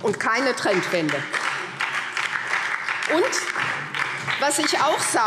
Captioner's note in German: Beifall SPD und DIE LINKE